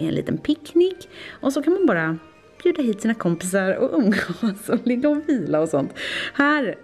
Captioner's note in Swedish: skratt